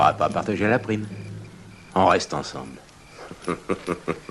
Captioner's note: chuckles